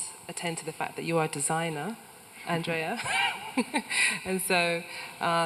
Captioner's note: laughs